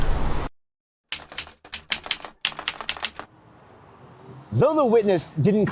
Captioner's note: keyboard keys clicking